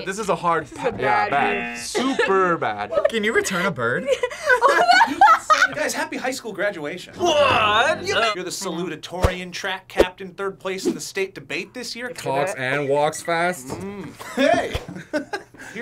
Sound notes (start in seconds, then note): 2.1 laughs; 3.9 both laugh; 13.7 laughs